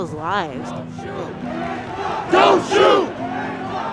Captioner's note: chanting